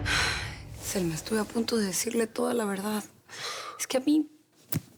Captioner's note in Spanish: suspiros